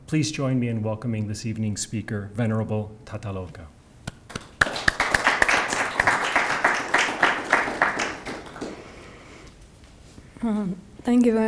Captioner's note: audience clapping